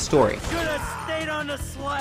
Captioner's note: gunfire